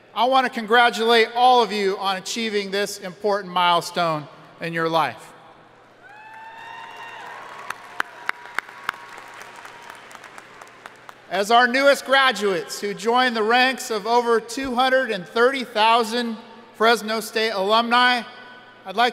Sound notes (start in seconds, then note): 6.0 audience cheering and applauding